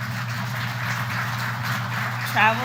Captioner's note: applause